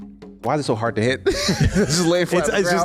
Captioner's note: laughs